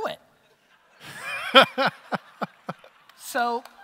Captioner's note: audience laughter